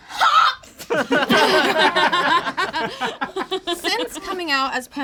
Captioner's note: all laugh